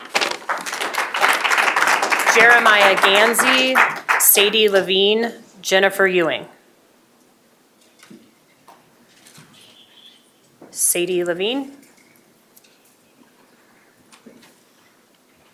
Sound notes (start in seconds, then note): 3.8 applause